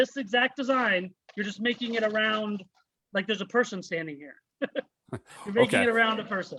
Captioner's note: chuckles